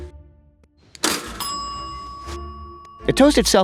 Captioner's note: bell pings